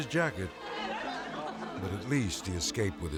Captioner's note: tourists laughing